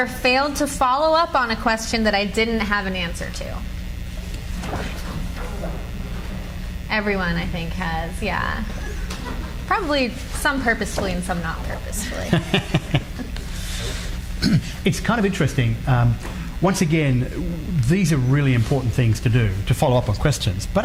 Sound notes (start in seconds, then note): 4.6 cards flutter; 12.0 laughs